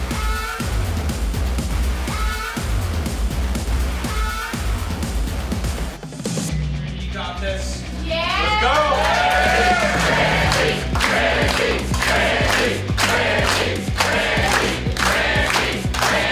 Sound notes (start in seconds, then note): 8.6 crowd Chanting; 9.2 crowd cheers